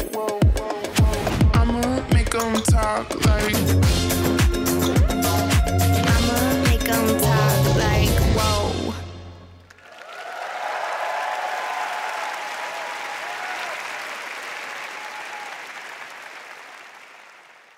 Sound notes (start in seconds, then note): 9.6 applause